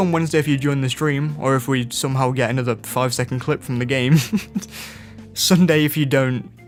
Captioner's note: laugh